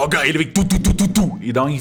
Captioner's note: thump, thump, thump